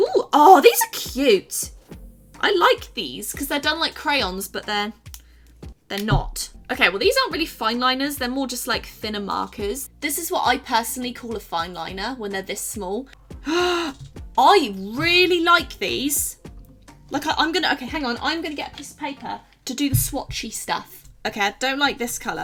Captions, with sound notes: Let's try - ooh, oh, these are cute! I like these because they're done like crayons, but they're, they're not. Okay, well, these aren't really fine liners. They're more just like thinner markers. This is what I personally call a fine liner when they're this small. *Gasps* I really like these! Look, I'm gonna - okay, hang on. I am gonna get a piece of paper to do the swatchy stuff. Okay, I don't like this color.